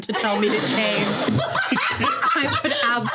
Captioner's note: everyone laughing